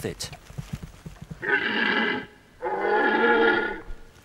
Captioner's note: red deer calls